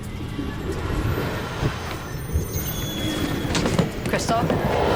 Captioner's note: moves into suspenseful orchestral music; ominous whispers